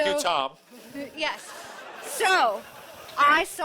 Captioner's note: audience laughing